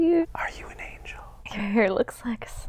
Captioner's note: whispering